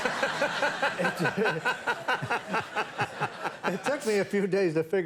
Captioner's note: laughs; audience laughing